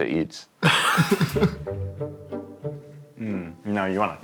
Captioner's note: all laughing